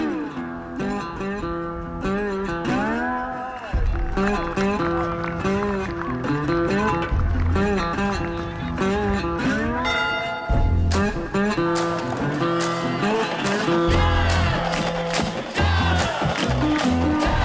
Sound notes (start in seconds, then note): 0.1 blues guitar music; 9.8 bell ringing; 14.6 crowd chanting